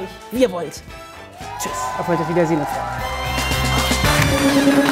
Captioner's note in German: Jubel